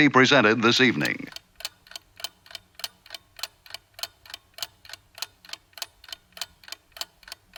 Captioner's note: clock ticking